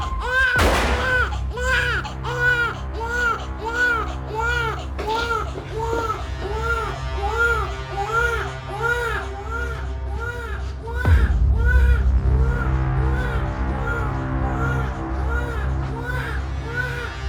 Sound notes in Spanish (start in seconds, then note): 0.5 Disparo; 2.4 Continúa el llanto